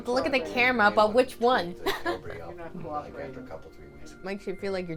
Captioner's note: chuckles